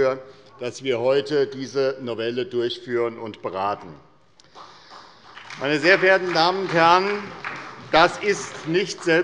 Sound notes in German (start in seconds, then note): 4.4 Beifall bei der SPD